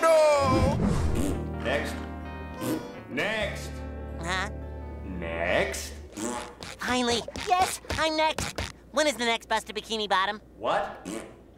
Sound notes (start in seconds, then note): 1.8 snoring; 6.0 blowing raspberry; 11.0 blowing raspberry